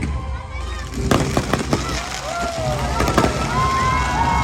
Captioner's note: fireworks banging; guests cheering